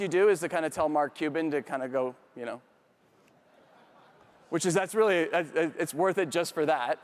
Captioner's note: audience members laugh